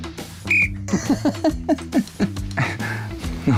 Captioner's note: blows whistle